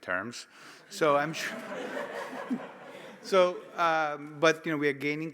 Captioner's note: audience laughing